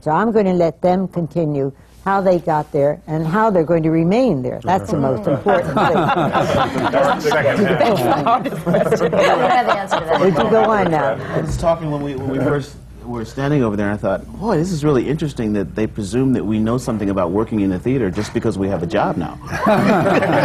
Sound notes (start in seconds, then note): 5.2 laughter; 19.4 laughter